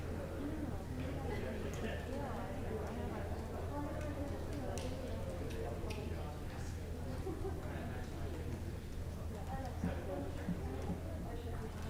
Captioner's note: indistinct chatter